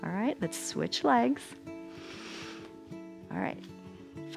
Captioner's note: inhales